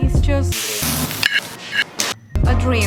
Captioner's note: cooking and plating sounds